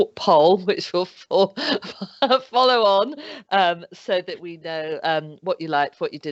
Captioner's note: laughs